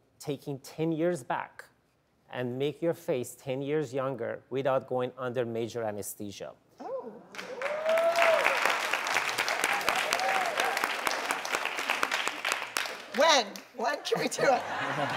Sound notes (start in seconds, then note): 7.3 audience applauds; 14.1 laugh